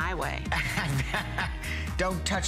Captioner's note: laughter